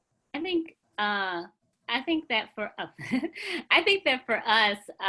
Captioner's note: chuckles